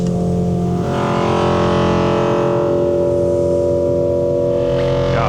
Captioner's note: ambient sound reverberating